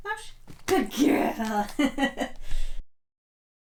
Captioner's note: laughs